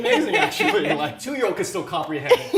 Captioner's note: laughing